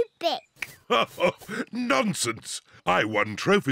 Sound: laughs

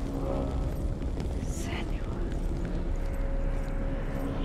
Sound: whisper

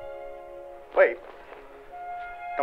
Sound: from tv

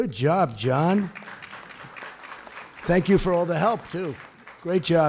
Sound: applause

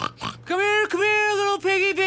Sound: snorting

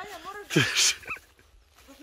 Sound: laughter

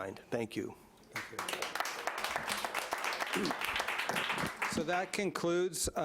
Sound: audience applauding

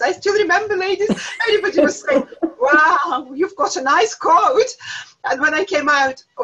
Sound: laughter

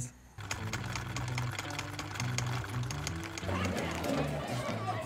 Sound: film reel clicking

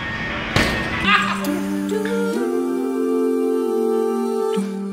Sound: vocalist laughs

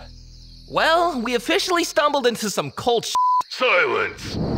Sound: beeps

